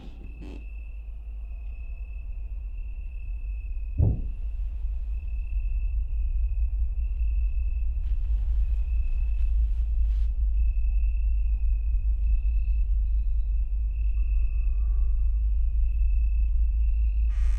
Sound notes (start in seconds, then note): 0.0 floor creaks; 4.0 something thumps; 14.5 tense horror music